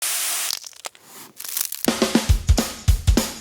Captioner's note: food crackling; food sizzling; upbeat energetic music